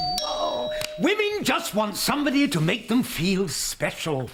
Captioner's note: doorbell